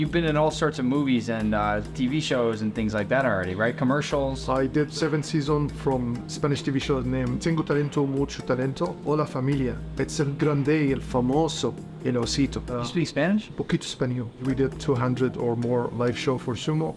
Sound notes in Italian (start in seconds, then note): 9.0 In spagnolo